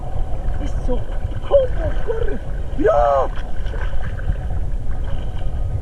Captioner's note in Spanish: peces róbalos saltando